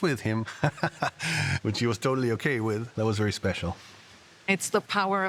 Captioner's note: chuckles